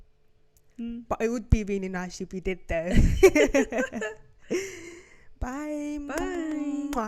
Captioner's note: both laughing